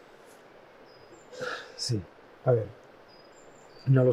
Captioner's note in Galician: suspira